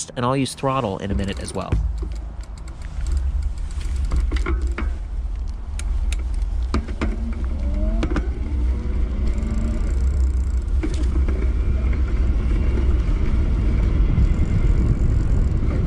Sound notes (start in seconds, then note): 4.0 chain clanking; 8.2 motor humming